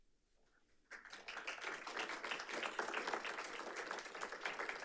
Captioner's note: audience applauding